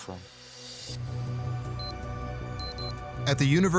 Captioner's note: electronic beeping